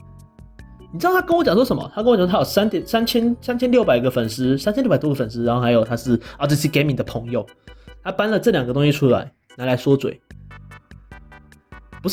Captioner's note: explaining the reasons above in Chinese